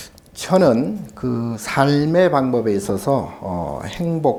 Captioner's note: speaking Korean